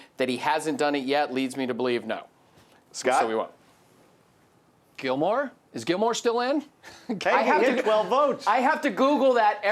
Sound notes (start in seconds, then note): 7.2 laughs